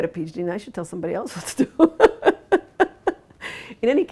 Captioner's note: laughs